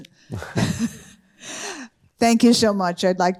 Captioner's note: chuckles